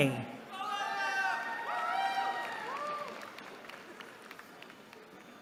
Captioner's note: cheering